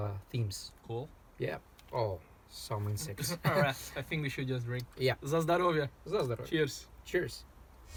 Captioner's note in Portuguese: em russo